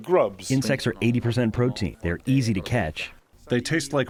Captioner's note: through translator